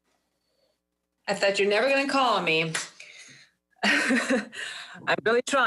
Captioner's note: laughs